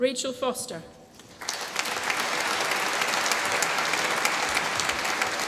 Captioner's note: applause